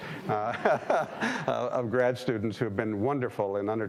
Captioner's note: laughing